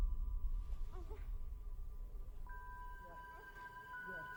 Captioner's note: Louise grunts